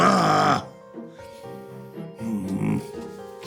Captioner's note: groans